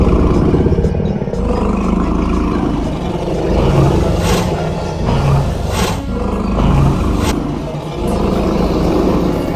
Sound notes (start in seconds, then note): 3.5 footsteps stomping; 3.5 dinosaurs growling